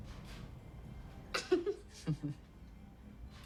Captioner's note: both giggle